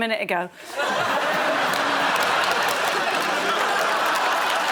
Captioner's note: laughter